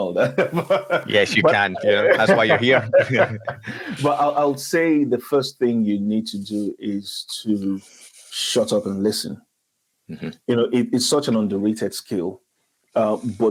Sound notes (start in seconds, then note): 0.1 laughs; 3.2 speakers laughing